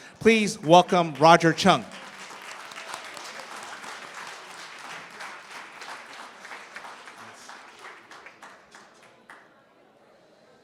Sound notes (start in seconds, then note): 2.6 cheering, applause